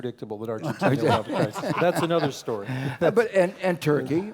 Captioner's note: laugh